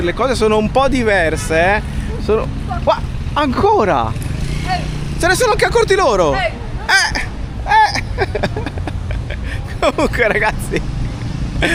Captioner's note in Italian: risate